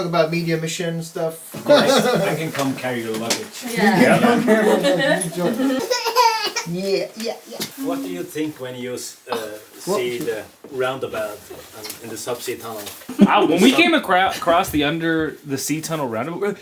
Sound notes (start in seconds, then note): 5.6 baby cries